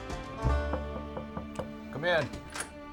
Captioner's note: upbeat country music; knocking on door; door opens